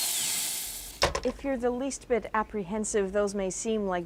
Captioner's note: drill whirrs